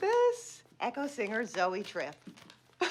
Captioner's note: laughs